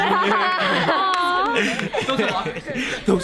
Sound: laughing

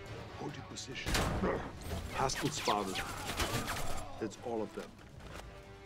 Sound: guns firing

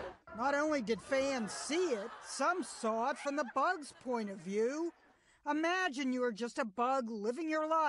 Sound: laughter

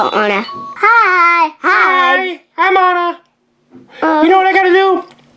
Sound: male Falsetto

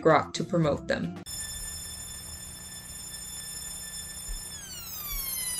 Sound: high pitched electronic tones that get progressively lower

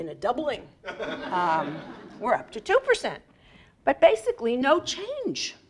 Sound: laugh

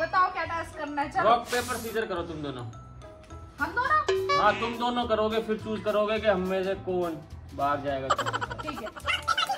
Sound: laughter

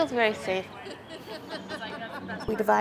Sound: laughter

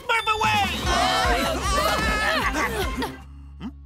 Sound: screaming

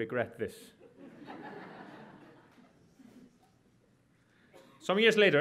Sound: audience laughs

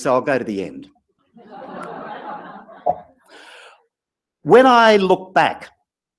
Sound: laugh

